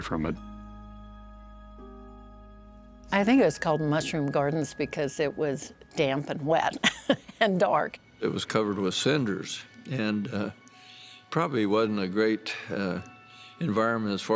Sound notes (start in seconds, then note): 2.2 gentle music; 6.8 laughs